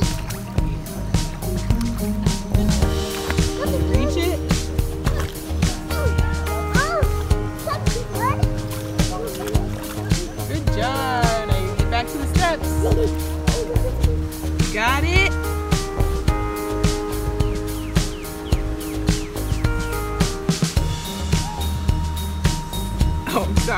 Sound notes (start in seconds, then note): 0.1 giggles; 3.3 murmuring; 5.3 grunting; 6.4 exclaiming; 12.5 giggles; 17.0 birds chirping; 21.6 exclaiming; 23.5 chuckles